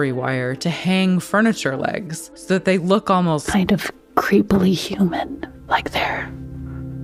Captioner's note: whispers